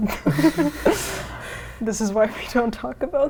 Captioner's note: laughing